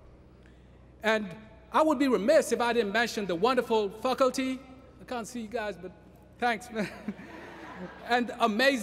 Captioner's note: laughter